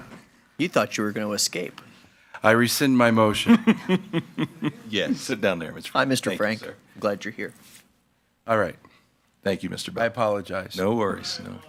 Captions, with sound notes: - You thought you were gonna escape? - I rescind my motion. - (laughs) Sit down there. - Yes. - Hi, Mr. Frank, glad you're here. - All right, thank you, Mr. Bell. - I apologize. - No worries.